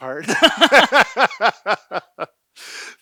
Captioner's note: laughing